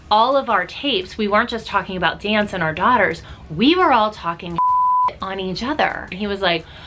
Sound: beep

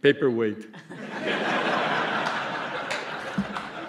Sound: applause

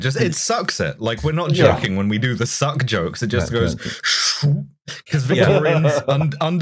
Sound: VERY evocative sucking noise; laughter

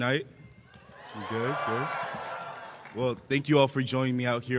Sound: cheers

